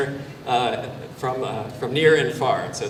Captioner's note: none